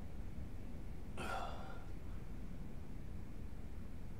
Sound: gasps

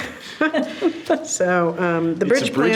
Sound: board members laugh

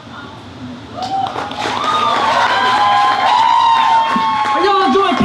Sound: audience cheers and applauds

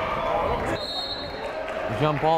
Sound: whistle blows

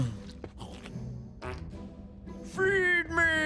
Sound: farting

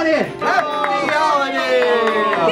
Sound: everyone cheering

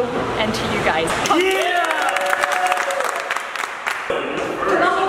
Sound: cheering

